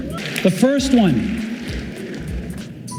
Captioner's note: applauding